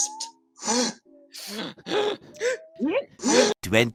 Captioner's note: gasping